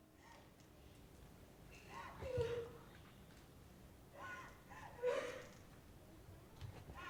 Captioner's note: woman crying